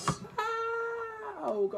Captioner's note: screaming quietly